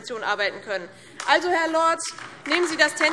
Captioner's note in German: Beifall DIE LINKE